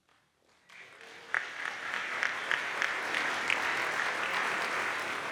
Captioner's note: audience applauds